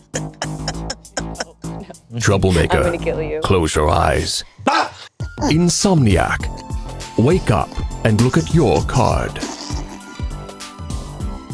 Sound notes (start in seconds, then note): 0.1 laughing; 4.9 screams